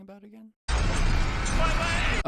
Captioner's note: fire and screaming